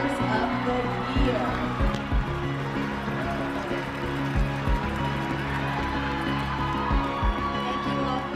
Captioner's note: cheering and applause